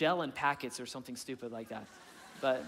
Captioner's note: audience laughing; chuckling